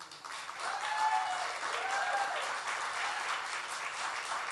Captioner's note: audience applauds